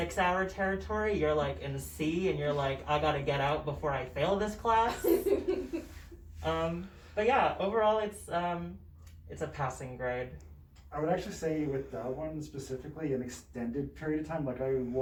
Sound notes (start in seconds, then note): 4.8 laughs